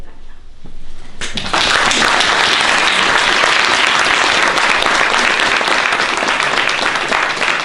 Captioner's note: applause